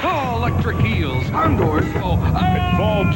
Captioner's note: yelling